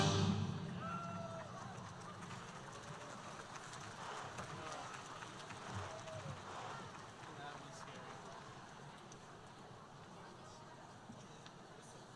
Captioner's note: background conversations